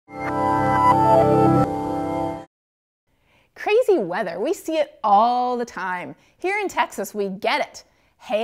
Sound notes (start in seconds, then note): 0.2 electronic tones